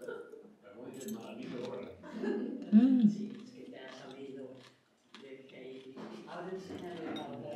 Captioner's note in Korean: 근대의 줄기부분 씹는 소리